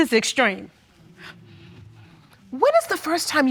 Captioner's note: audience murmuring